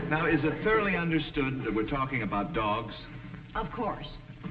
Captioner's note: audience snickering